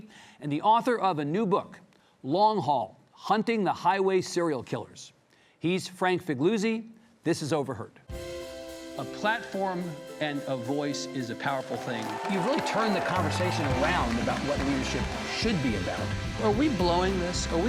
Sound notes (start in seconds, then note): 8.1 warm inquisitive music; 11.5 audience applauding